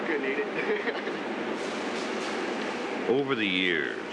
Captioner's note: laughs